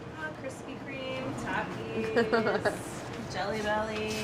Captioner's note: Claire laughs